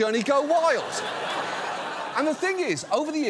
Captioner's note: audience laughs